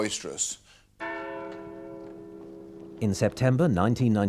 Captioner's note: bells chiming